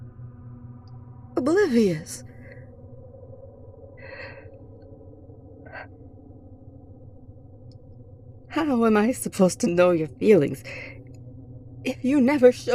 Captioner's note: shaky breathing as she realizes